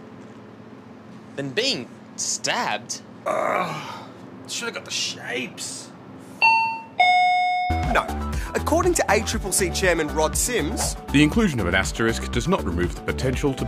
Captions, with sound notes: Than being stabbed? (Groans) Should have got the Shapes. (Shop bell dings) No. According to ACCC Chairman Rod Sims -